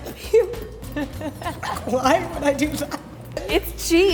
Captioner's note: laughing